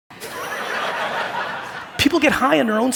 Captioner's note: audience laughing